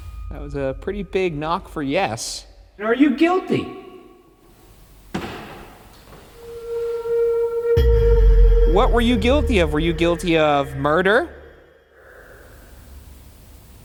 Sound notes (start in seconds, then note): 0.0 eerie dramatic music; 5.0 knock thuds; 6.4 eerie dramatic music